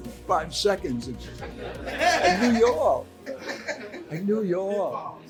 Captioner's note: crowd laughing